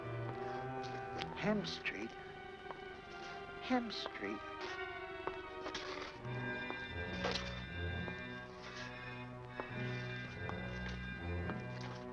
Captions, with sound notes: - Hemp Street? Hemp Street. (foot steps tapping) (shoe scraping)